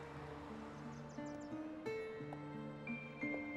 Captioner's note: birds chirping